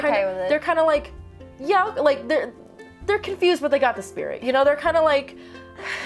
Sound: stammers

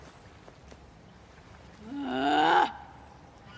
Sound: cassie grunts in anger

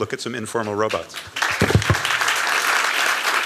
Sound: applause

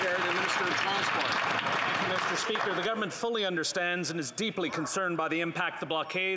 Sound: applause

